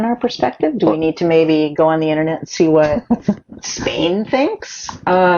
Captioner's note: laughs